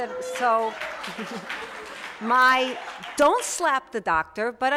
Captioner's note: applause, laughter